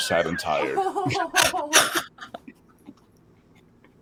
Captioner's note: laughing